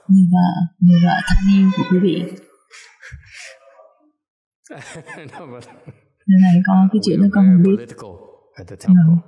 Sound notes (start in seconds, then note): 1.5 laughter